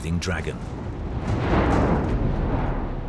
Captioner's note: explosion